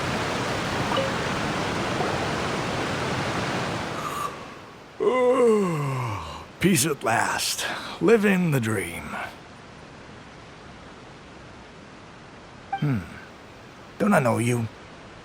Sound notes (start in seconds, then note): 5.0 yawn